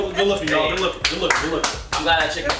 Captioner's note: all clapping